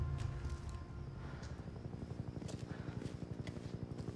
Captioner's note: helicopter flying